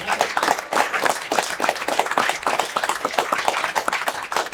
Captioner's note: attendees clapping